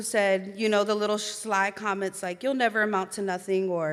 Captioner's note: none